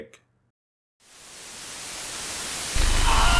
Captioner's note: Static; static and Demonic noise